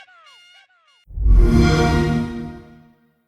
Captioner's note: xbox sound